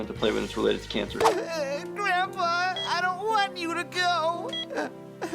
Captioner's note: crying